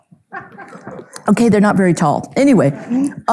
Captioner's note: audience chuckles; audience member laughing